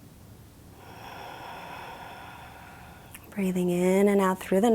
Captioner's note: exhales deeply